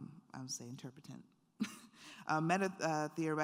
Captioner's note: chuckles